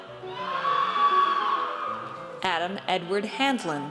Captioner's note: audience cheers